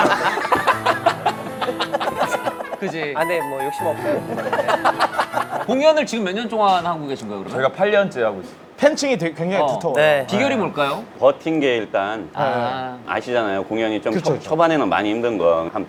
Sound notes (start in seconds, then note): 4.2 laughing